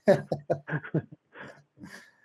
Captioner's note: laughs